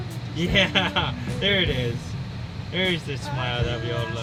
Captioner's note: laughing